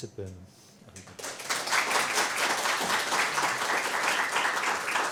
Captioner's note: applause